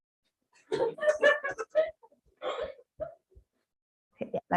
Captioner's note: laughter